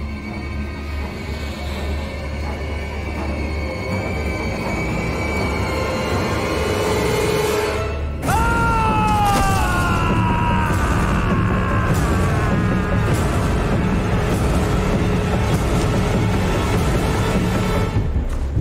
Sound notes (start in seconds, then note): 8.2 screaming